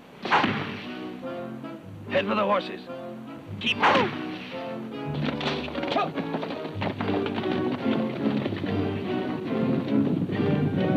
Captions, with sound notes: (arrow thunks) Head for the horses! Keep moving! (arrow thunks) (exciting music)